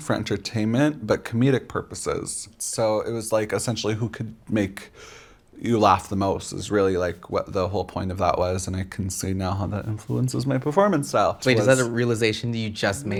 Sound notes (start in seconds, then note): none